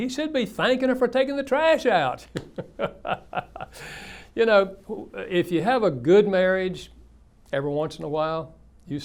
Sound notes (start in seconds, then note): 2.4 laughs